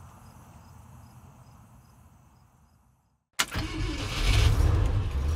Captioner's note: engine roaring